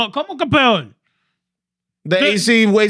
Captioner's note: speaking Spanish